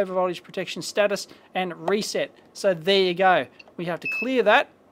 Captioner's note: beep